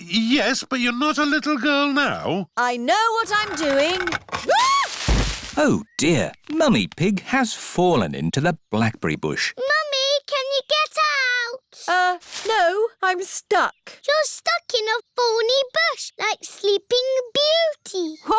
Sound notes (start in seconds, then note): 3.2 thuds; 4.5 screams